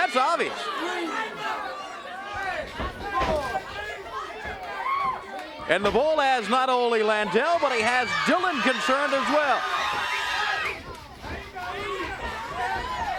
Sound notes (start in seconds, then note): 9.2 crowd chatter